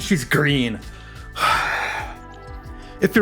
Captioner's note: sighs